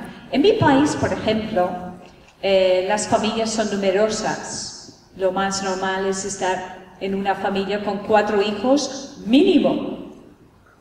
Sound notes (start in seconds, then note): none